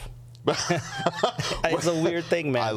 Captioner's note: laughing